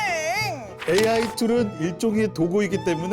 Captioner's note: sound of flipping to the next page